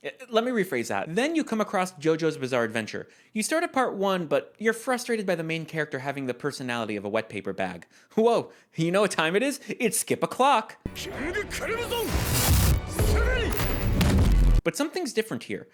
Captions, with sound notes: Let me rephrase that- Then you come across JoJo's Bizarre Adventure. You start at Part 1, but you're frustrated by the main character having the personality of a wet paper bag. Whoa, you know what time it is? It's skip o'clock! -KING CRIMSON! [Boom] But something's different here.